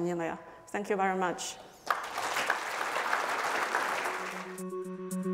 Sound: audience applauds; soft electronic music

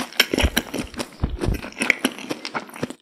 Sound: microphone noise

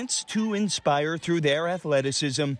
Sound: cheers and Applause

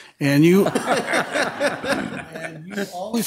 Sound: audience laughing

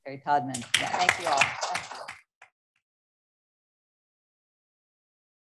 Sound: attendees applaud

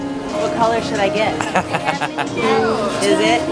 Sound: laughter

